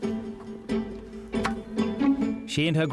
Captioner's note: bright music continues; racket thuds